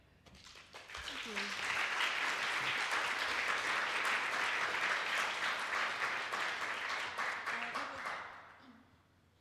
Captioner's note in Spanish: aplausos